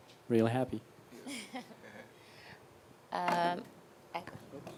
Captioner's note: laughing; phone thudding